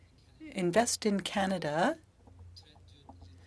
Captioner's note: speaking French